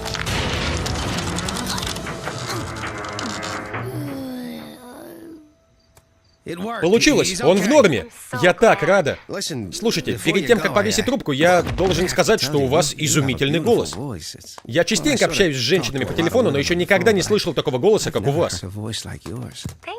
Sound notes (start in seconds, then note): 0.0 metallic creaking, groaning; 2.4 relived moan